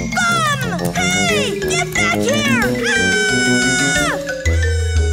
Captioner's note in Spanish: gritos